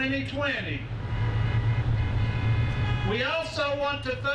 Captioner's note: horns honking